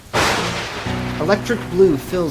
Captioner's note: lightning cracks